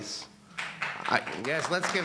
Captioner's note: audience applauding